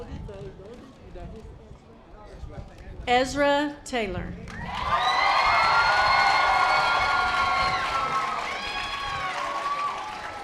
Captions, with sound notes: Ezra Taylor. (audience applause)